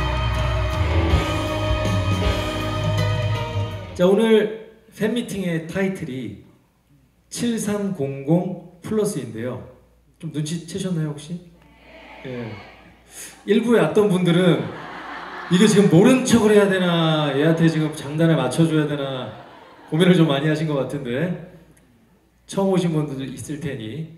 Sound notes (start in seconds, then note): 13.0 exhale